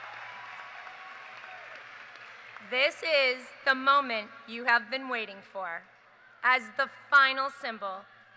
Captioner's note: cheers